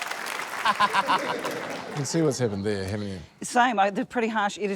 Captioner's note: cheering, applause; laughs